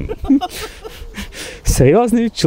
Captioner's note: laughter